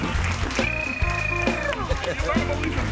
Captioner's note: mimicking vehicle revving